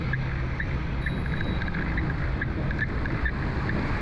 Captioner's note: bicycle bell rings from behind